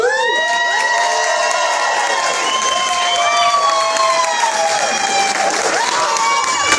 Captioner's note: cheering and clapping